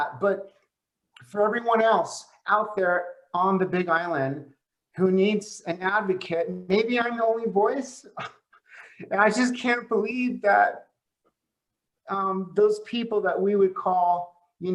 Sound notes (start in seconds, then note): 8.1 laughs